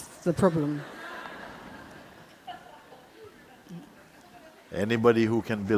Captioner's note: laughter